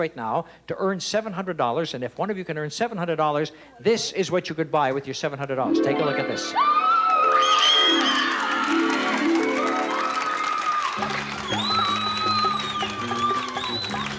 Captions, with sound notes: in a chance right now to earn $700. And if one of you can earn $700, this is what you could buy with your $700. Take a look at this. (screams and cheers)